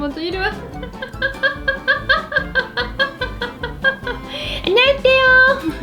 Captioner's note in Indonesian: tertawa